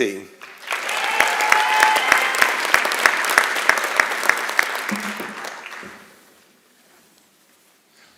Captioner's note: applause and Cheering